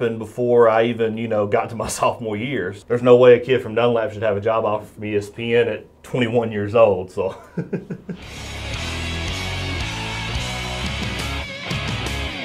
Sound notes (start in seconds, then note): 7.3 laughs; 8.2 energetic rock music